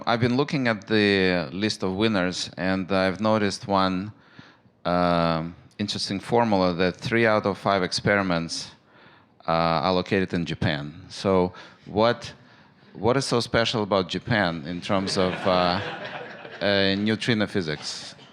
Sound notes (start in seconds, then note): 15.0 laughter